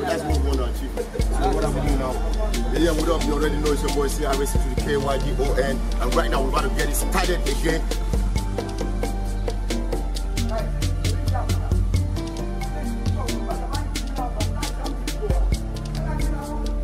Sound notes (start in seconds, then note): 3.0 speaking foreign language; 9.1 soft music continues